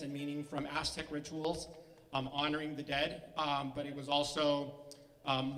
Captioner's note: none